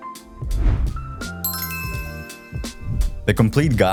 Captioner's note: bright chime